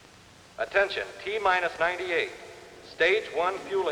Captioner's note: man on PA